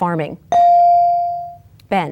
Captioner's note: bell dings